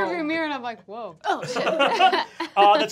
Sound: laughing

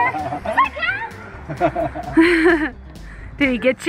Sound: laughing

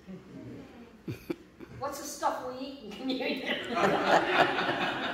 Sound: laughter

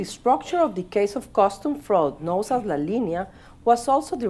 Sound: speaking spanish

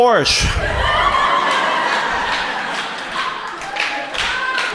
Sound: audience laughs

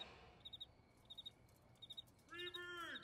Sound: crickets chirp

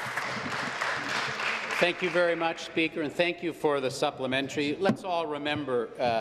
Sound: applause

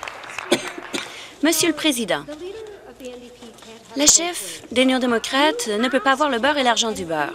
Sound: some Applause

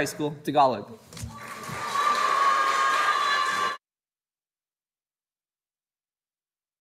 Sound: audience cheering and applauding

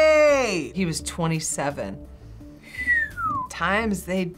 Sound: whistle

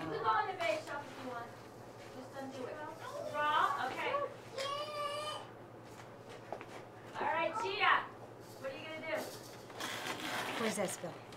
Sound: background chatter

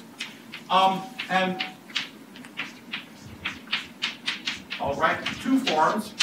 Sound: chalk writing on chalkboard

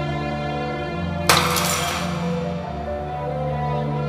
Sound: glass breaking

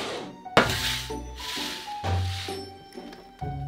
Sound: boarding sliding

